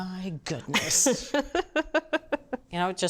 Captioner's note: laughs